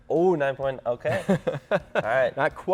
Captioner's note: laughs loudly